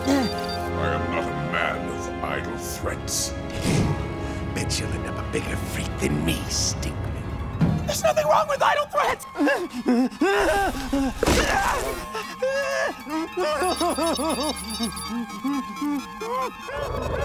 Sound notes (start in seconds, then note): 10.2 groaning; 13.4 beeping; 14.8 groaning